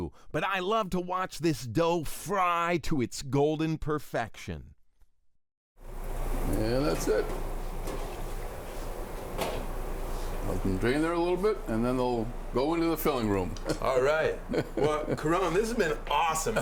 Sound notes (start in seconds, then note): 13.6 chuckling